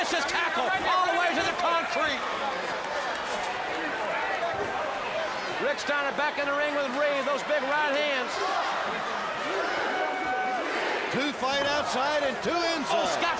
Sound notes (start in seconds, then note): 8.9 crowd cheering